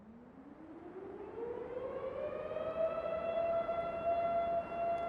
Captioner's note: faint siren humming